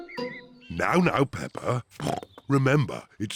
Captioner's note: snorts